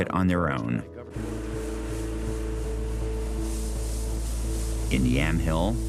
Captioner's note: machine roaring